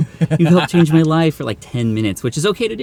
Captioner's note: laughs